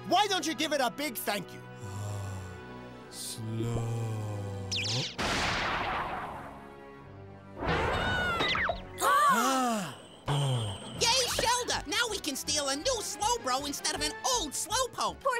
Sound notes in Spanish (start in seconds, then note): 4.8 gritos ahogados